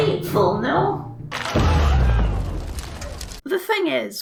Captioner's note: pop